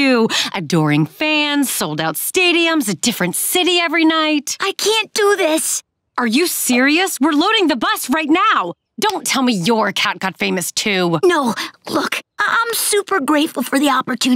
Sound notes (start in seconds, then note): none